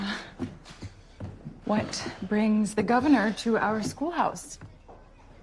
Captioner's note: none